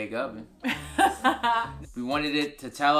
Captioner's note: laughs